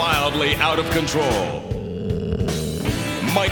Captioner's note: growling